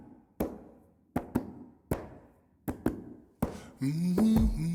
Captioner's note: man clapping